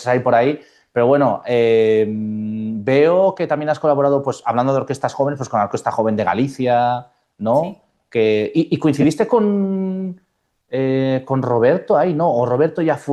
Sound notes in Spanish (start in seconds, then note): none